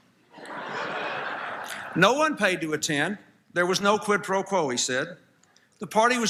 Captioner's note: laughter